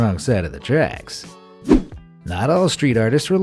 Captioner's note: air whooshing